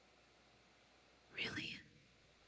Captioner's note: whispered